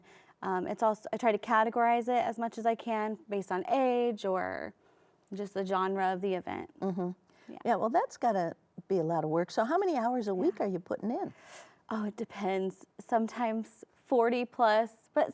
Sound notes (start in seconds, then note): none